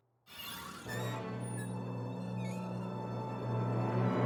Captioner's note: door squeaks